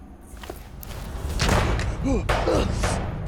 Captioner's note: gunshot; grunt